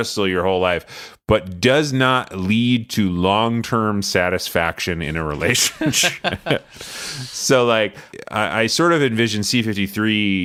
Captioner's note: laughs